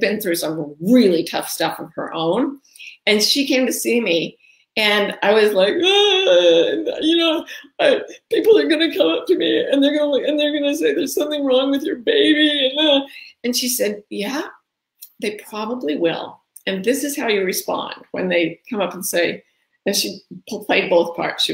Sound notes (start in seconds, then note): 5.6 wailing